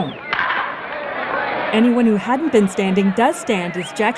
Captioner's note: crowd clamoring